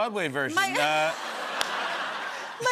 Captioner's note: laughter